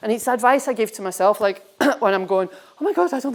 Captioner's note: clears throat